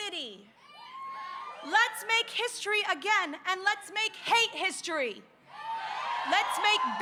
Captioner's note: cheers and applause